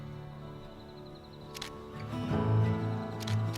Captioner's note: camera clicks